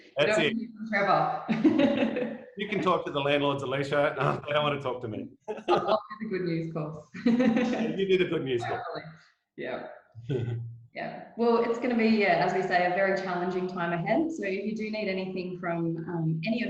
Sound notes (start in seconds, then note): 0.1 chuckles; 2.6 both laughing; 5.4 laughs; 10.2 chuckles